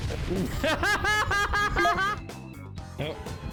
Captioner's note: laughter